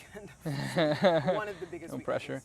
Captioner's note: laughs